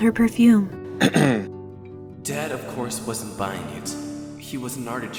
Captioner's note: clears throat